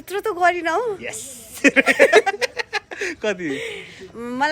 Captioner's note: laughing